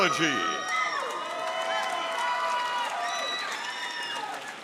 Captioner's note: audience cheering